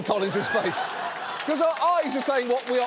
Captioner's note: studio audience laughing, applauding